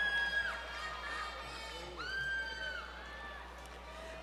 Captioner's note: crowd Cheering